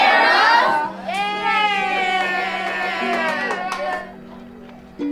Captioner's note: kids cheering